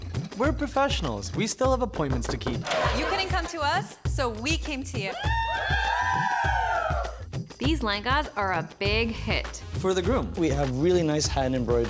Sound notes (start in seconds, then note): 5.1 cheering